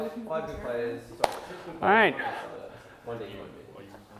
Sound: claps

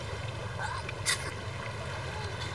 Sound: sneezes

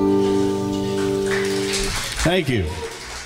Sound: audience applauding

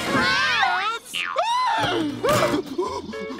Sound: screaming

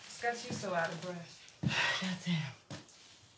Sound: sighs

